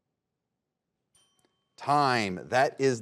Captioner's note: bell chimes